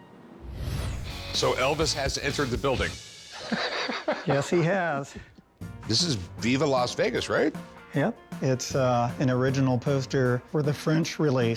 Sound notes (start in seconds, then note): 3.4 laughs